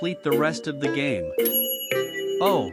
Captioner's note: ding!